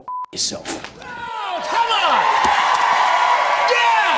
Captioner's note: cheers and applause